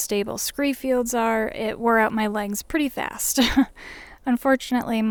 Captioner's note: laughs